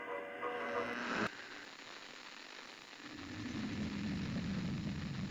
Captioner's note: radio static